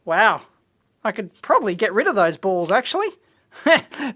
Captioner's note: laughs